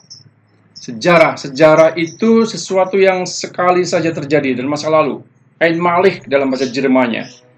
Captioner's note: German